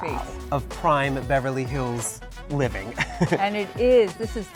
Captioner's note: chuckles